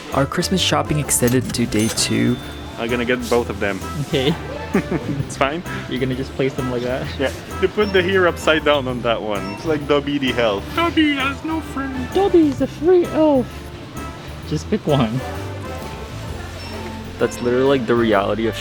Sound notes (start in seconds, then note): 3.9 laughing